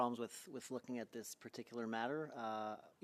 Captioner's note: speaking French